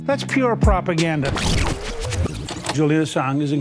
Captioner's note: rewind sound effect